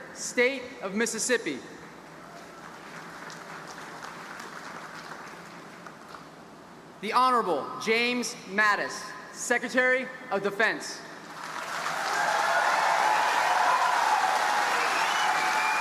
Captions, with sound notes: State of Mississippi. (audience applauding) The Honorable James Mattis, Secretary of Defense. (audience applauding and cheering)